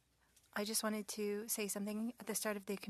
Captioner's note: speaking French